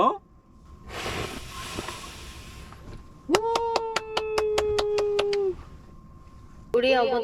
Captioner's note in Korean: 물개박수